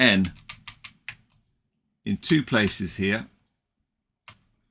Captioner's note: keyboard clicking